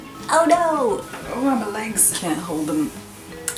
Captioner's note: old lady noise